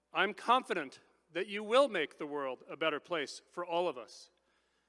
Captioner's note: none